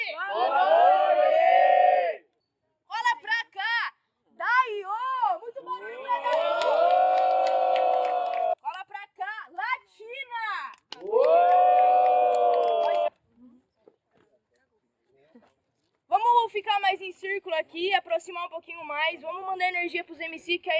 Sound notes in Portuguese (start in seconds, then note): 6.2 palmas e assovios; 10.8 palmas e assovios